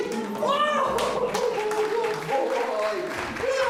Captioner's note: applause